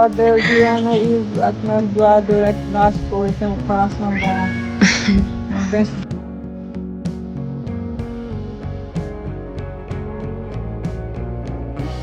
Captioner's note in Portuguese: limpando a garganta